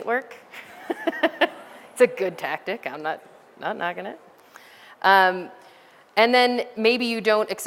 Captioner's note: laughter